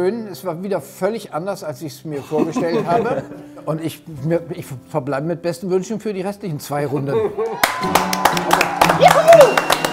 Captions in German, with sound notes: Es war schön, wieder völlig anders, als ich's mir vorgestellt habe. Ich verbleibe mit besten Wünschen für die restlichen zwei Runden. (Jubel) Juhu!